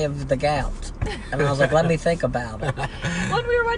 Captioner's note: laughing